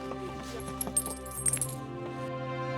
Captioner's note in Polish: brzęk monet